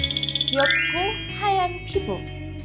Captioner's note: porcelain-white sound effect